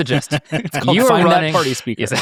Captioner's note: participants laughing